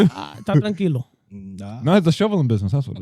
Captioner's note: speaking In Foreign Language